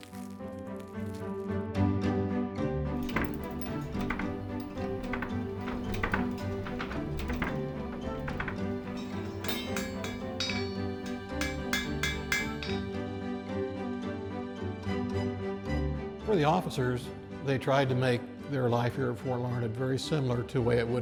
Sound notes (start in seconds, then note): 0.0 crispy bread sounds; 5.4 blacksmith fire burning; 9.8 hammering